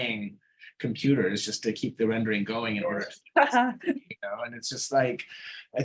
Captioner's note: chuckling